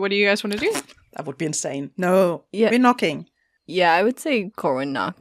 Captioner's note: laughs